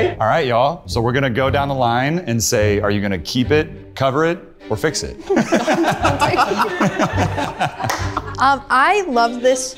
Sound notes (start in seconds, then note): 5.2 all laughing